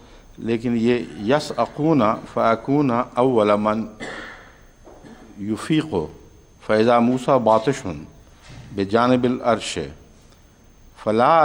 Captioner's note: Arabic